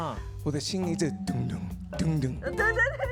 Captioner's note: beating